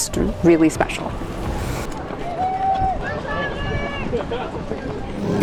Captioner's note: runners clamoring